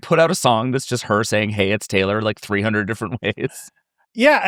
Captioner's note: chuckles